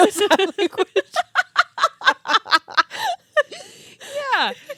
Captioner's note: girls hysterically laughing